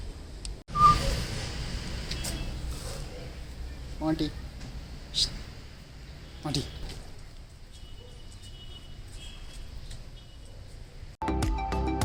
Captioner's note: whistles